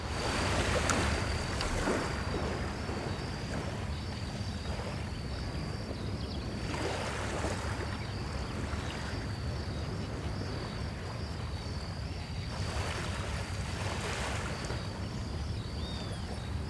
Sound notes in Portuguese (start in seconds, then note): 0.0 ondas arrebentando; 3.9 barulho do mar; 3.9 som de insetos